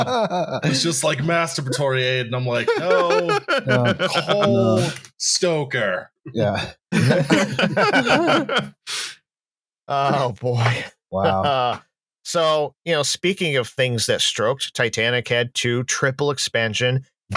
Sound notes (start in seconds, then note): 0.0 uproarious laughter; 4.3 keyboard tapping; 6.9 laughter